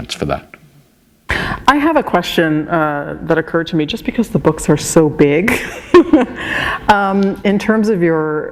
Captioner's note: laughter